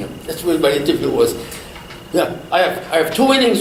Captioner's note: laughs